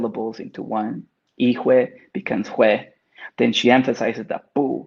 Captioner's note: speaks Spanish